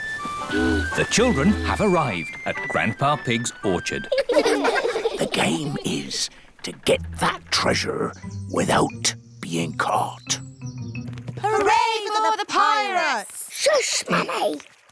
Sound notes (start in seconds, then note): 4.0 all giggle; 5.4 whispers